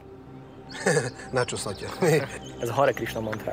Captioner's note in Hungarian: chuckles